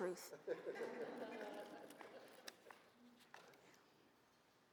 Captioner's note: audience laughs